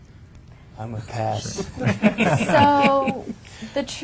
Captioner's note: panel chuckling